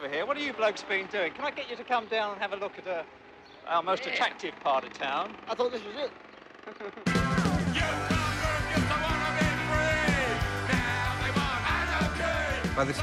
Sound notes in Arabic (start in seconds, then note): 5.2 يضحك